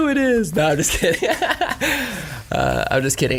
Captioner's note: laugh